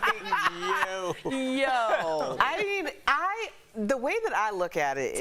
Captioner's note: laughter